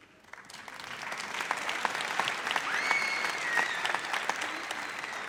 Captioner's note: audience applauds